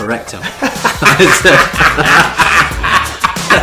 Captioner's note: laughing